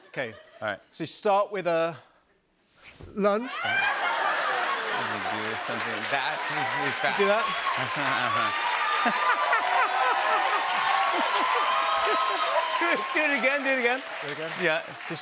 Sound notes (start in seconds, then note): 3.6 cheers and applause; 3.6 laughter